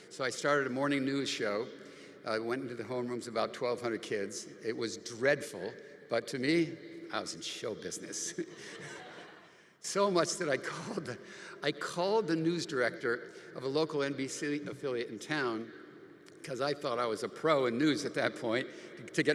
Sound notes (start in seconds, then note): 8.3 audience laughing; 8.3 laughs